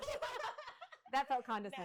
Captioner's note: laughing